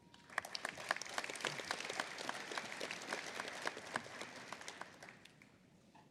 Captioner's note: applause